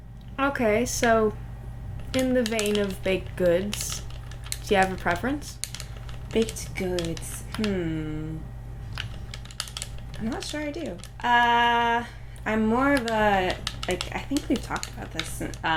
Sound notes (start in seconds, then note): none